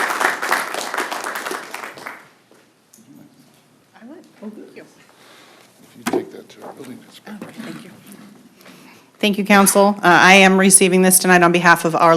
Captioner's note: applause